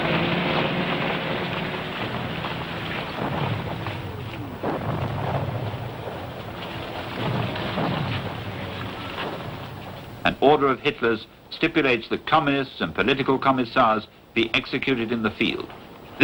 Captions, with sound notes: (explosions booming) (boots stomping) An order of Hitlers stipulates that communist and political commissars, be executed in the field.